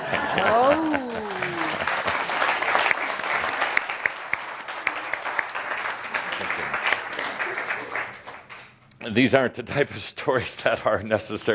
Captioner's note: some chuckles and applause